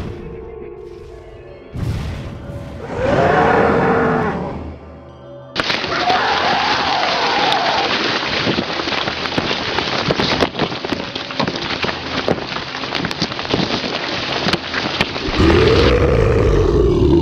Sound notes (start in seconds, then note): 0.0 creepy music; 2.8 roar and grunts